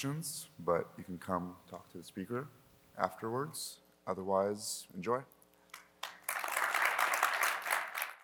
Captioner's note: applause